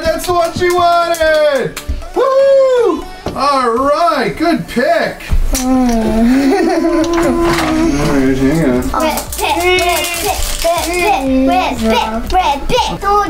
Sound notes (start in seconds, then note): 9.8 dad humming